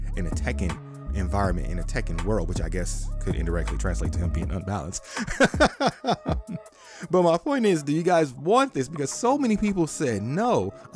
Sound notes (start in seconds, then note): 5.1 laughing